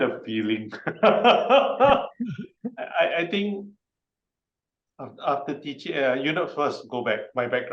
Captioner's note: chuckles